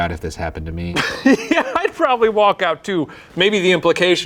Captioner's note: laughing